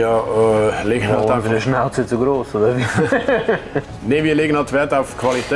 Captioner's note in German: lacht